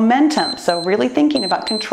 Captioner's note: timer beeps